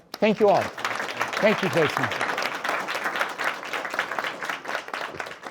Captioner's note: audience applauds